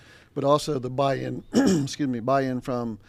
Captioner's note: clears throat